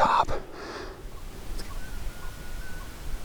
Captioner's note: elk bugling